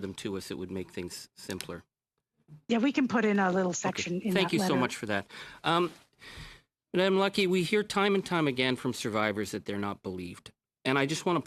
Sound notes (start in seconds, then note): 1.8 speaking in French